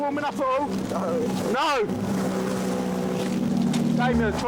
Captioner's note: engine whirring